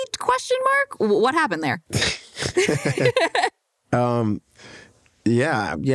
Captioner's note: laughter